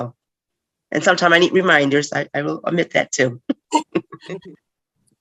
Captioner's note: laughter